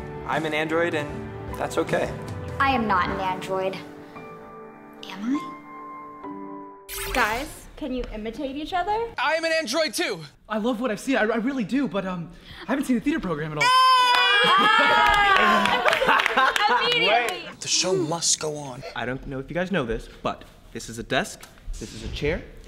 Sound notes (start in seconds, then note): 13.8 yelling; 15.8 laughing